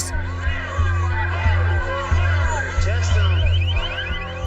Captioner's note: protesters chanting